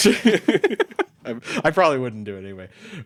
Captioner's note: both laughing